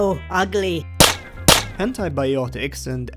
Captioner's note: coins ricocheting